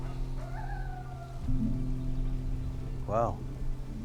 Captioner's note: coyote howls